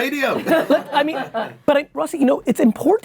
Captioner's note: laughing